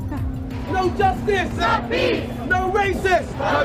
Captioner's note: crowd chant